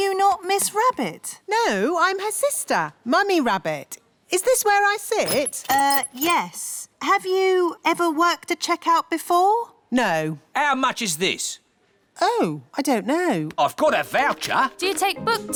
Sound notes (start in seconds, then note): none